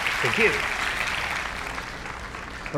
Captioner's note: applause